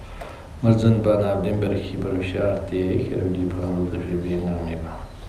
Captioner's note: tibetan